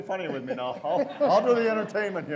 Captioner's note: audience laughs